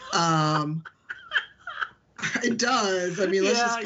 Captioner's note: laughing